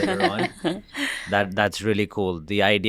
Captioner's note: interviewees laugh